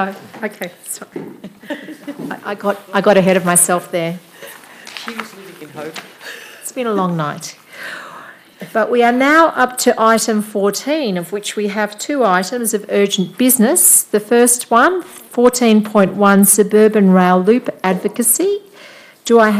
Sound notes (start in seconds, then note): 1.2 laughs